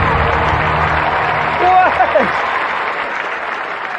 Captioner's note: chuckling